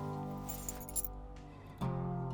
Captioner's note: keys jingle